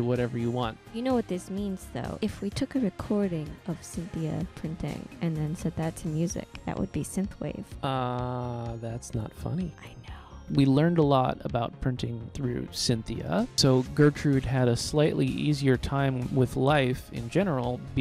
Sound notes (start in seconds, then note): 9.4 whispering